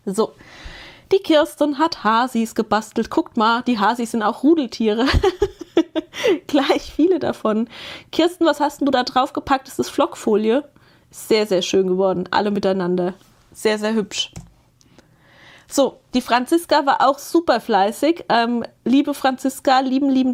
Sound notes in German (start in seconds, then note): 5.0 gelächter